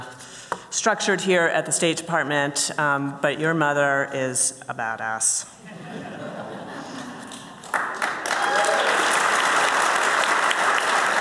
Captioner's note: applause